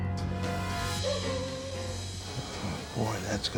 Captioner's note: dog barking